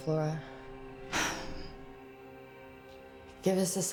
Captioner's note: Rachel sighs